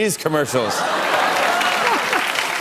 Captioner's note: laughter and applause; laughs